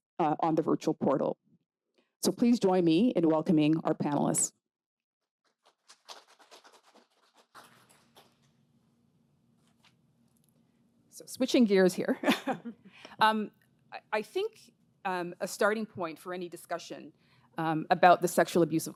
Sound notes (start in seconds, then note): 5.7 crowd claps; 12.2 chuckles